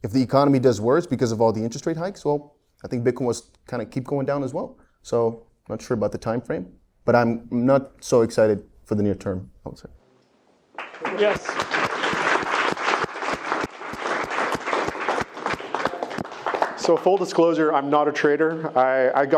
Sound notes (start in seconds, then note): 12.6 attendees clapping